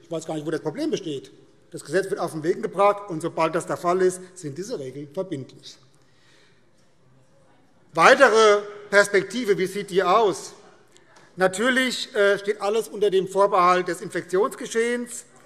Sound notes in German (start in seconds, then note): none